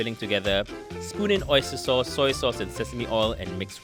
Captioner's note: voiceover